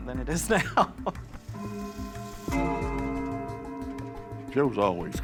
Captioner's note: clock chime